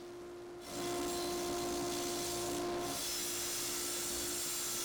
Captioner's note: machine whirring